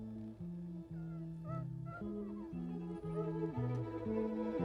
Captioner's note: William whines